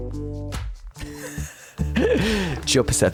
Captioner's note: laughing